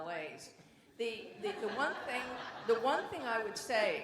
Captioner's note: audience laughs